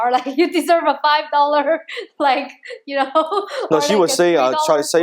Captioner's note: laughs